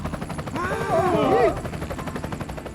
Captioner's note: truncated yelling